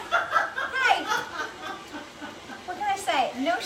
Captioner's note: laughing